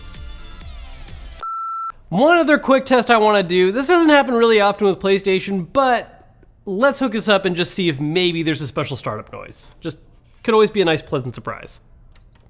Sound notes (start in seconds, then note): 1.4 electric beeping